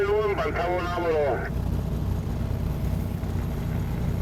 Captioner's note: sound of a radio